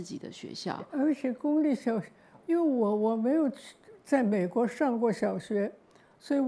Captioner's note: Mandarin